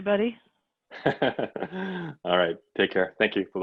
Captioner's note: laughs